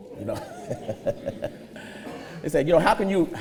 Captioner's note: laughs